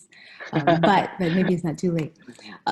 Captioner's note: laughing